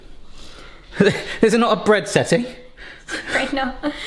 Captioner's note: chuckles